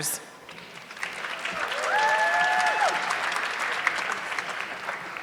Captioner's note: audience clapping